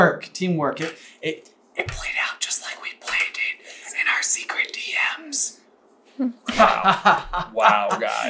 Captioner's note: whispers